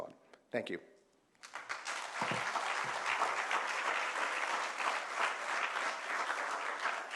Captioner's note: applause